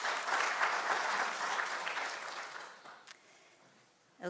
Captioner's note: audience applauding